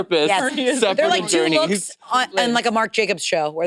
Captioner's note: participants chattering